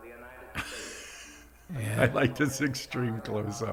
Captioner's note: laughing